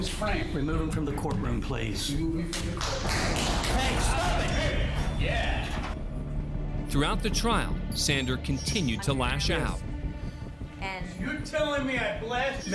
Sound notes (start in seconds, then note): 2.6 applause